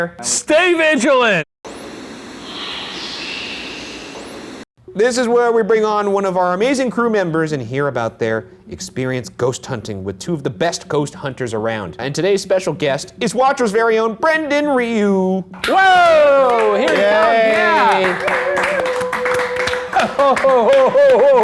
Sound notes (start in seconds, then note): 1.8 radio static; 1.8 whispering voice; 18.3 everyone clapping